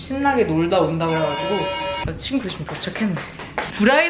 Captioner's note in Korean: 초인종 소리